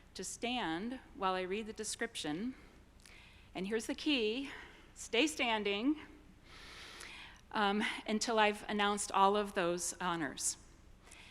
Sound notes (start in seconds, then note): none